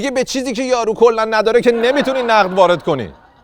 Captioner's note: laughter